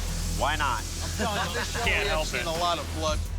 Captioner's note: laughs